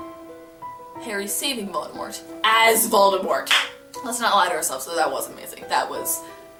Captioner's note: clap of victory